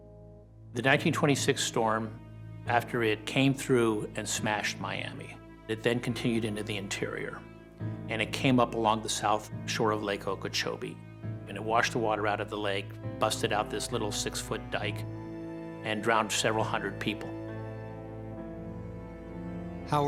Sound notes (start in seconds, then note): none